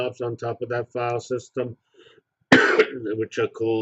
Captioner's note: cough